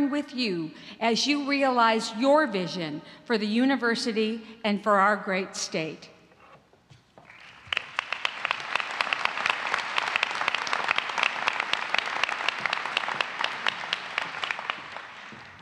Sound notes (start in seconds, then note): 7.2 applause